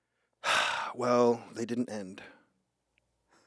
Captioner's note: sighs